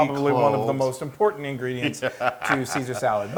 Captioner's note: laugh